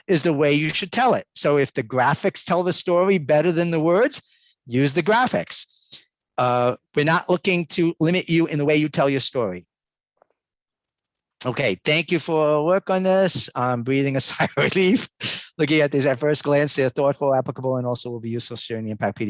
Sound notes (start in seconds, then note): 14.3 laughs